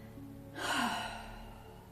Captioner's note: sigh